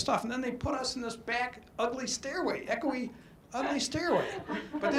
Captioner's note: audience laughs